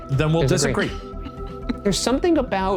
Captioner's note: laughing